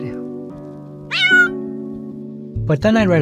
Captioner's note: cat shrieking